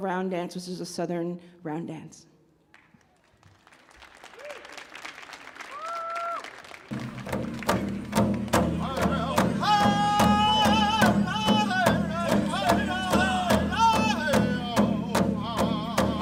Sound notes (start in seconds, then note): 2.7 audience applauds; 6.9 upbeat rhythmic music